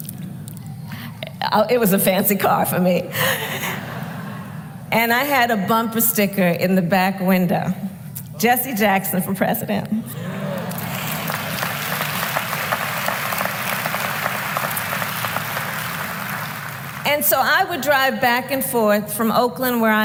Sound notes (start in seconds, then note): 0.1 laughter; 14.6 applause